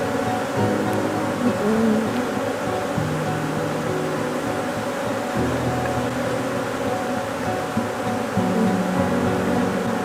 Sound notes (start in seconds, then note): 2.7 bees swarming